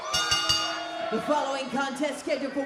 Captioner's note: bell rings